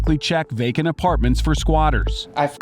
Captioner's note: beeps